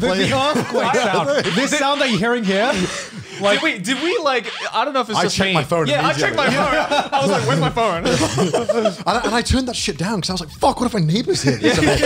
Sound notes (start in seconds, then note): 1.1 alarm blares; 8.5 laughs